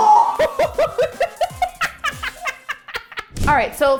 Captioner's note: both screaming; laughing